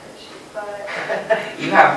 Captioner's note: laughter